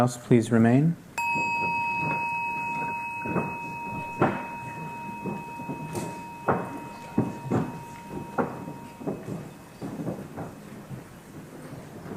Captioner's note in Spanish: Suena una campanita